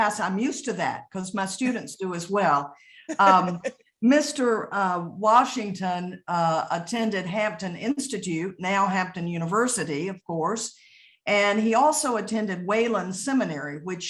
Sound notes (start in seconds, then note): 3.0 laughing